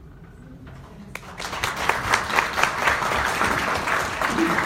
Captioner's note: audience applauds